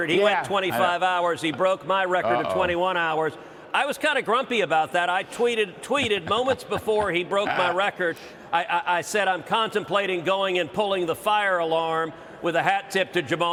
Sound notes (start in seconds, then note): 1.3 laughter